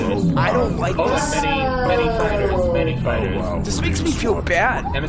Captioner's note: dismayed noises